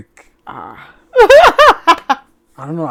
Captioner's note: laughing